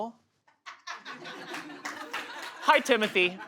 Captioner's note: audience laughs